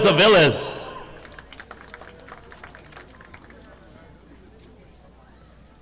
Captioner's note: audience clapping